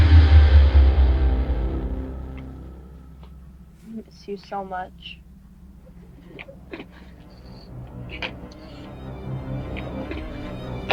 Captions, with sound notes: I'm going to miss you so much (Natasha gasping)